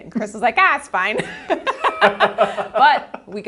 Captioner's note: both laugh